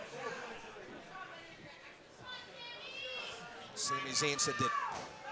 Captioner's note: crowd chatter